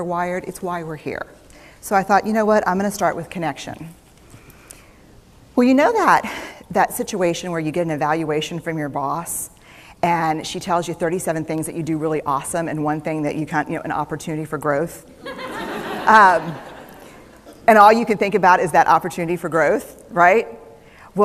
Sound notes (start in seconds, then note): 15.2 laughter